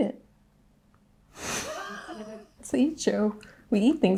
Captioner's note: laughing